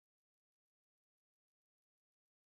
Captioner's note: none